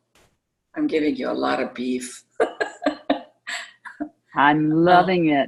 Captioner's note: laughter